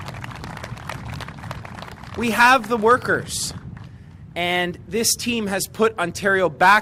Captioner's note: applause